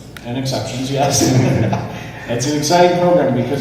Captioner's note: laughs